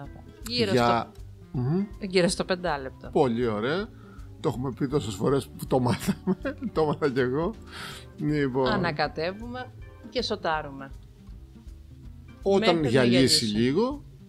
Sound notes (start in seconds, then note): 6.0 laughing